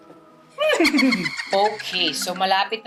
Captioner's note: mimics horse neighing